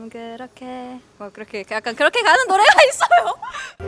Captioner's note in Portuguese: Muita vergonha risos